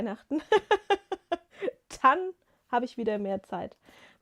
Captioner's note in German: gelächter